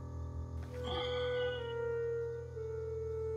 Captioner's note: Sighs